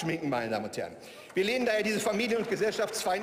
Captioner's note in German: Beifall